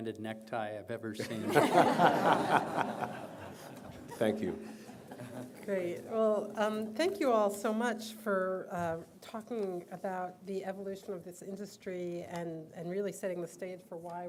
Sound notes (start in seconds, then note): 3.4 laughter